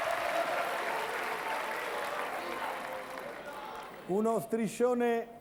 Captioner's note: Applauso